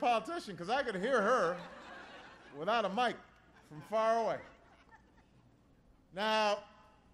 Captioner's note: laughter